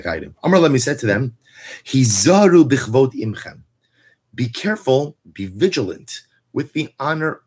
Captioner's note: Hebrew